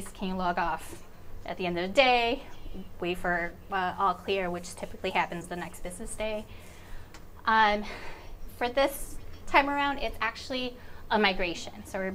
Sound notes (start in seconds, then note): none